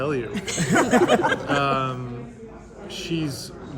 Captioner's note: laughter